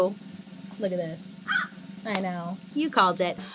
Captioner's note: Joan caws